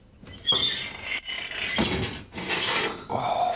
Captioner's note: oven door squeaking